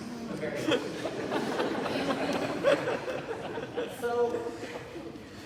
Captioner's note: audience laughter